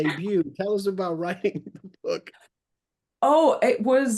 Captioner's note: laughs